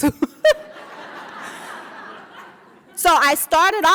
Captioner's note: laughing